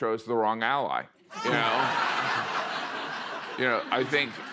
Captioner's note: laughter